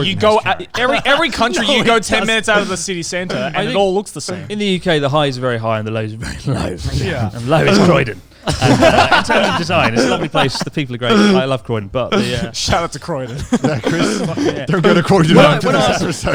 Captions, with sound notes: - Every country, you go 10 minutes out of the city center and it all looks the same. - In the UK, the highs are very high, and the lows are very low. And low is Croydon. (laughs loudly) In terms of design. It's a lovely place, the people are great, I love Croydon, but. - Shout out to Croydon. - Chris, not Croydon's biggest adversary.